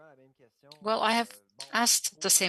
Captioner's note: speaking French